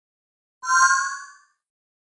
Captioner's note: magic sfx